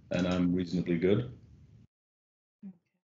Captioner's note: none